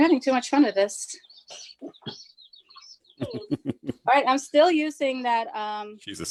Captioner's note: chuckles